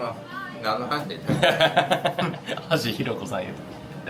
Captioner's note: laugh